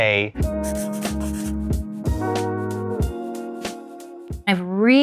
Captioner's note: jazz music; pencil scribbling